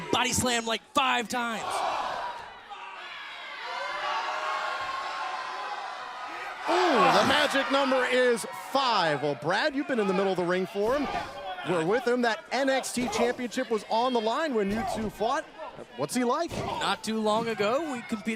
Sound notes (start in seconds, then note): 3.3 crowd cheering